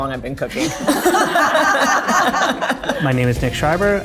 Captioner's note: group laughing